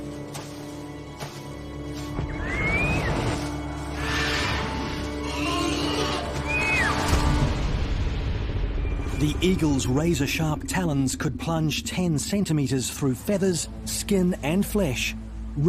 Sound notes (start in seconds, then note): 2.8 eagle squawks; 5.2 moa screeches